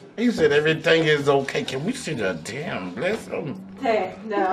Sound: laughing

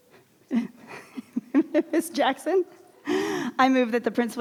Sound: laughs

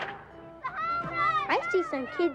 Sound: kids cheering

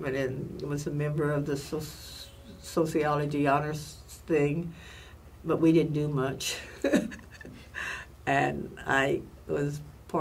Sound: laughs

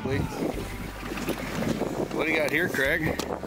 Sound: wind rustling

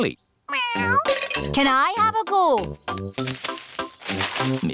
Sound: meows

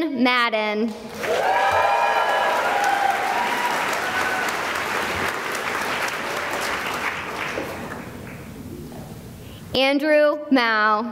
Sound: cheering and applause

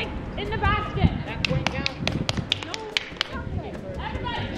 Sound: children clapping

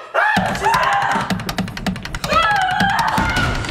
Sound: screams

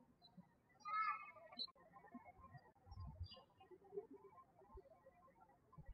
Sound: birds chirping

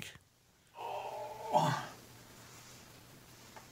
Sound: groans

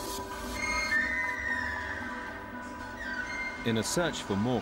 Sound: doors creak

